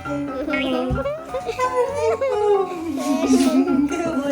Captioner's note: laughs; kisses